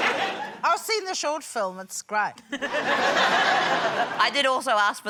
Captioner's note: laughter